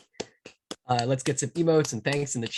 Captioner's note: claps